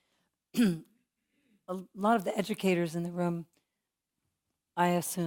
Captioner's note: cough